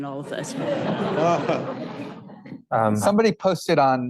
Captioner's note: audience laughing